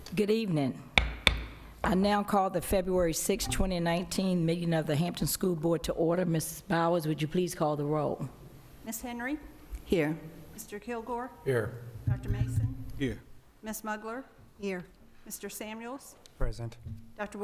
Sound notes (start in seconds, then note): 1.0 gavel